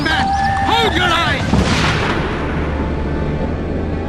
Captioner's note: gun bangs; solemn music